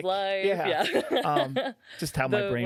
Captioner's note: laughing